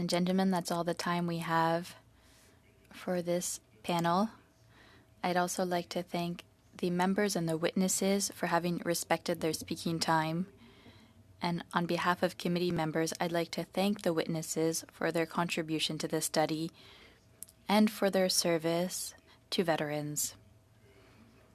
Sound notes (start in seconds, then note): 1.5 speaking French